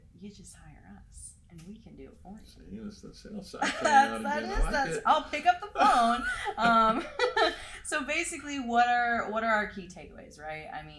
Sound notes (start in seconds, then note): 3.6 laughs; 5.7 both laugh